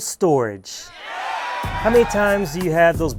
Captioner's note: cheering